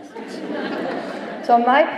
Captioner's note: laughter